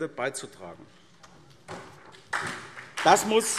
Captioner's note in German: Beifall SPD